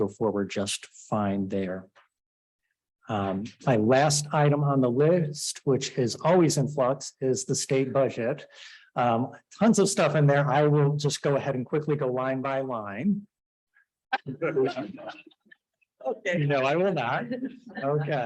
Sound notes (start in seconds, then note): 14.1 chuckling